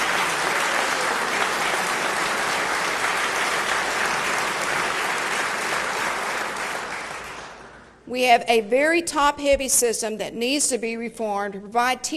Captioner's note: applause